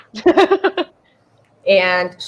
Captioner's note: laughs